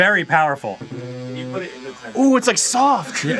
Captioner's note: vibrator hums against the table